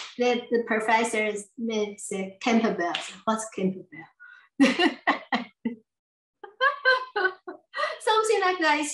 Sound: laughs

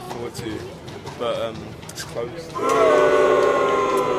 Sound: booing sound effect

